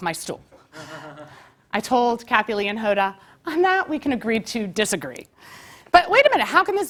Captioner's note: laugh